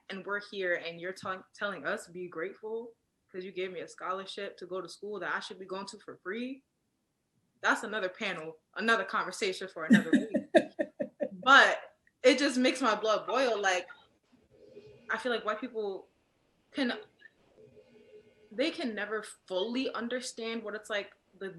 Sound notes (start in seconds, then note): 9.9 laughs